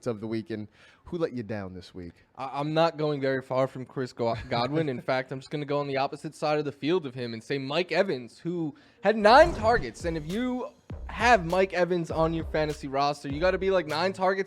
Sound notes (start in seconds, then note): 4.3 laughter